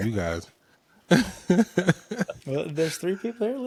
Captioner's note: laughing